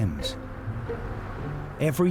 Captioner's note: traffic humming